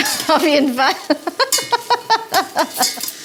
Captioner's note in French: Rires